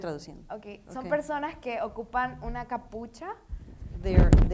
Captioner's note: speaking in foreign language